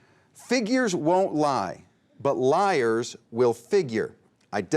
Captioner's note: none